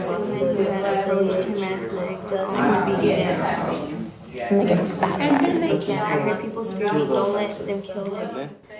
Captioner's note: students talking with each other